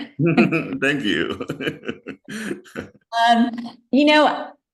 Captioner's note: laughs